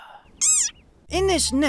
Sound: squeak

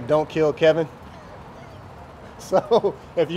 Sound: laughing

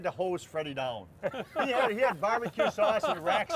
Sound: laughter

